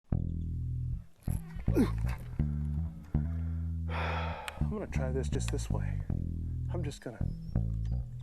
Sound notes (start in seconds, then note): 1.6 grunts; 3.1 sighs; 8.0 country music playing